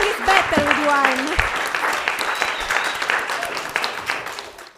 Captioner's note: audience applauds